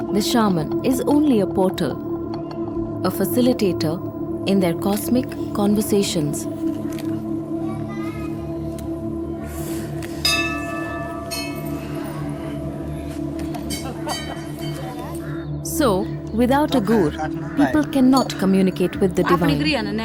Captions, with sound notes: The shaman is only a porter; a facilitator in their cosmic conversations. (eerie music) (bell chimes) So, without a Gur, people cannot communicate with the divine